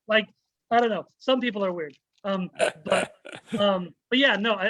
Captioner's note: chuckles